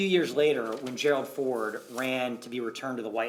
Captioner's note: paper rustling